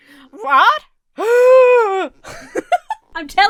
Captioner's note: Emma gasps exaggeratedly; Emma laughs